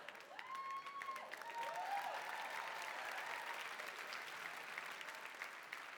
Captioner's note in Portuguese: audience cheering and applauding